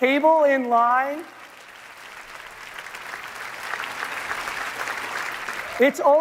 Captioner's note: applause